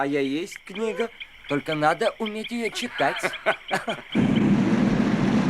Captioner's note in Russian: смех